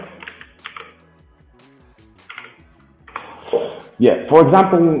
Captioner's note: keyboard clicking